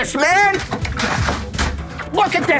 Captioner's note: clanking